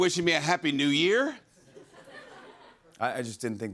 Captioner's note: laughter